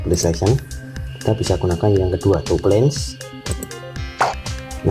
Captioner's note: click